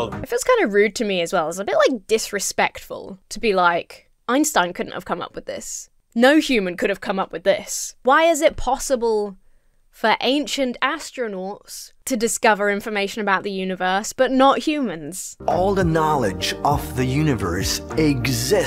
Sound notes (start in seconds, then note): none